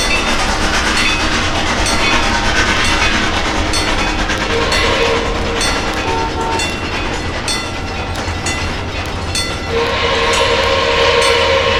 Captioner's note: Lackawanna S-3 whistle, rapid chuffing; Lackawanna S-3 whistle, wig wag ringing